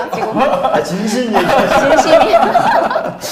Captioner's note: laughing